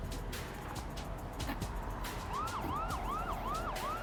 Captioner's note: siren whirring